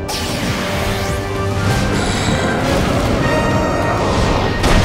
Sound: growling

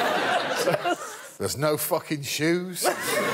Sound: laughter

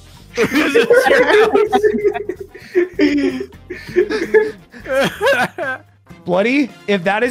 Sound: laughter

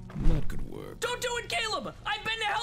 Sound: shouting

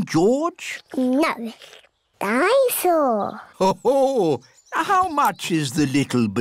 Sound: daddy pig laughs

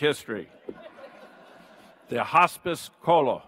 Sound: audience laughs

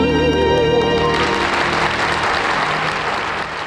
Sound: audience applauding

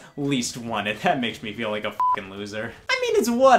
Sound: beep

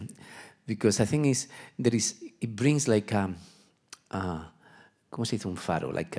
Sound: speaking Spanish

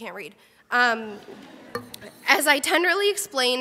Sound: crowd laughs

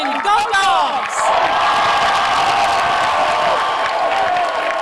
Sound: cheering and clapping

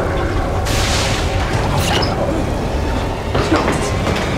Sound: shoes squeak, footsteps, thunder

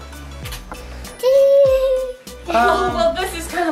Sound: giggles

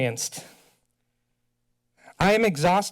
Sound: silence

